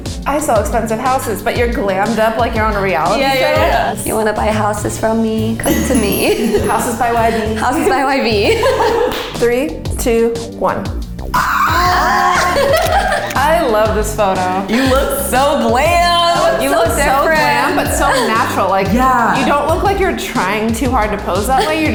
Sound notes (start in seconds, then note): 8.6 all laugh; 11.3 girls exclaim